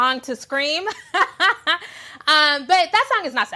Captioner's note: laughing